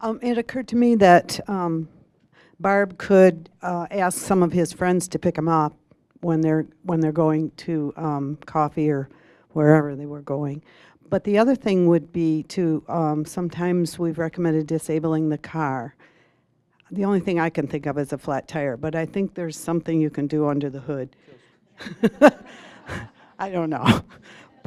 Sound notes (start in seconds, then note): 21.8 audience laughing